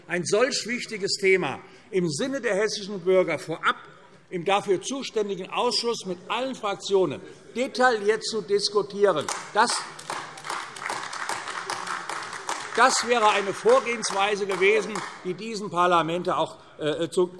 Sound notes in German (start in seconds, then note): 9.2 Beifall AfD